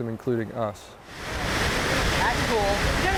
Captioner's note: water rushing